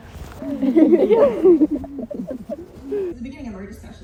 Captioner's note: laughing